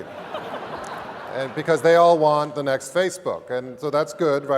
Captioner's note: laugh